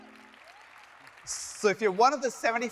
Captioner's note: audience applauding